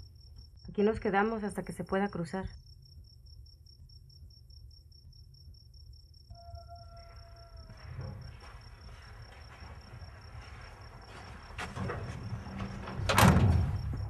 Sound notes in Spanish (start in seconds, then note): 3.4 sin sonido